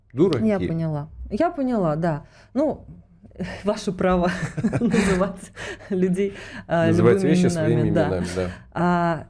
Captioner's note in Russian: смех